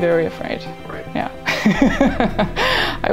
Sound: laughs

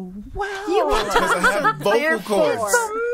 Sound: all laughing

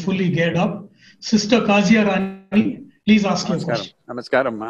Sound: laughs

